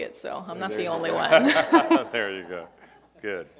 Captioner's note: laughing